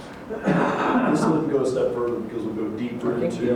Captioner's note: laughter